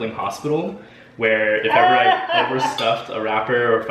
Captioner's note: laughs